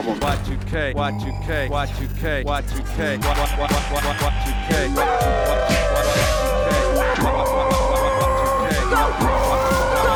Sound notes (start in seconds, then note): 4.8 people yelling; 7.2 man roaring